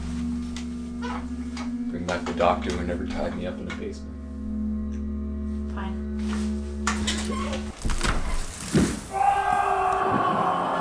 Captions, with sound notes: Bring back the doctor who never tied me up in a basement. Fine. [scream]